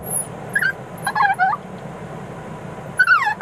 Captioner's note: dog whimpers